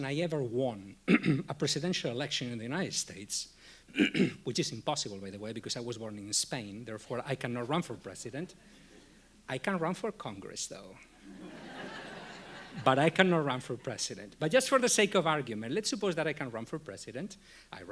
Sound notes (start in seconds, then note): 11.2 audience laughing